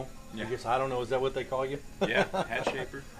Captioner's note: laughs